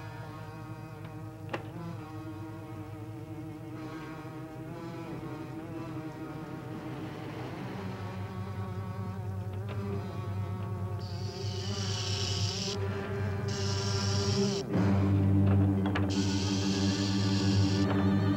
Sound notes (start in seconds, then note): 13.4 hissing